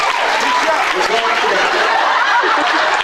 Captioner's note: audience applauds; laughs, applauds